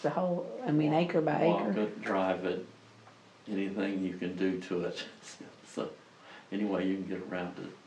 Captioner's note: laughs